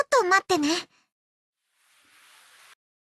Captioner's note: I can hear the sound of her clothes rustling